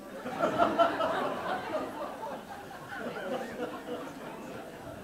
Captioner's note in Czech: smích